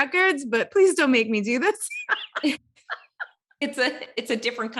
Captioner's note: laughs